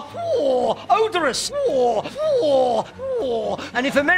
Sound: making a ‘Phwoar’ sound TOO MANY TIMES

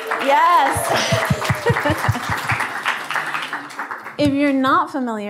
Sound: applause

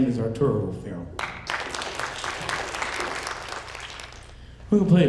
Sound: audience applauding

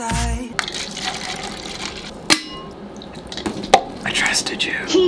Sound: liquid pouring; lid clings

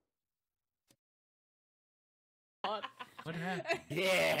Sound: laughing

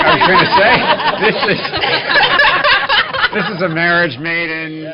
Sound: laughter

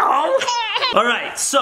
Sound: laughs

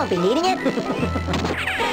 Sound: snickers

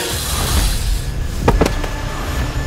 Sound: thud

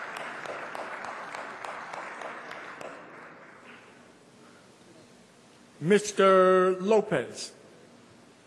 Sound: applause

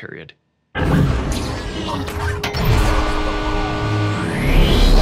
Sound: jets whooshing

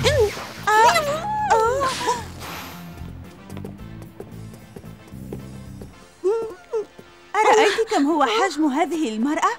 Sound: suppressed scream

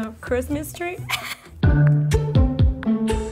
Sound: laughing; soft music

